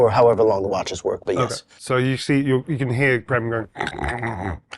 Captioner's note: snores